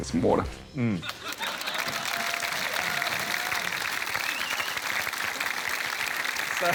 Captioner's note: cheering, applause